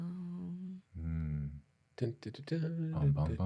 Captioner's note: humming